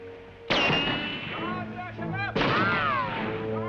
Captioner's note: gunfire